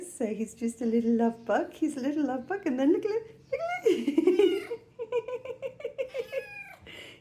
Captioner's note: laughing; mewing